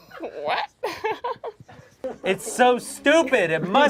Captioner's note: laughs